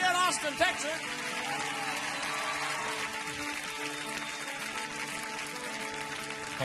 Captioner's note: audience cheering and applauding